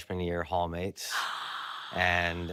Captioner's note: gasps